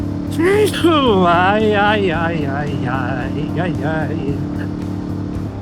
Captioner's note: sneezes